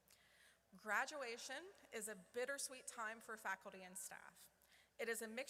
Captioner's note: none